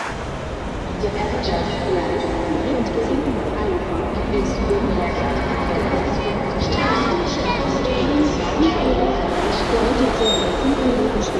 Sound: loudspeaker announcements

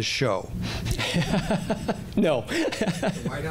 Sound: laughing

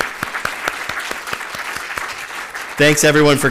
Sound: applause

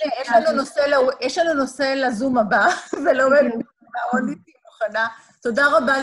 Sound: laughter

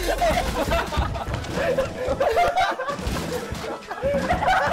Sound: haha

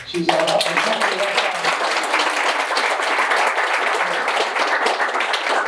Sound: audience applauding

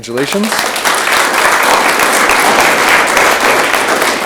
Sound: audience clapping

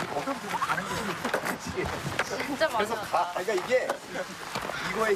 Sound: chatting away as they take a short break

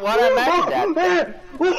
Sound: screaming

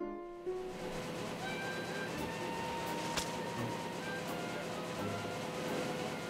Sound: jazz music; machine printing newspaper

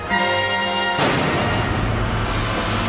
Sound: gunfire

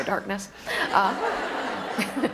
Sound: laughter

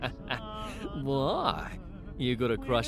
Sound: laughs

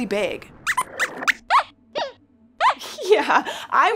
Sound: squeaks squeaks

